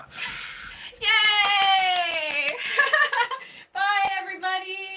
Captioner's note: clapping